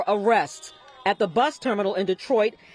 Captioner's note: horns honking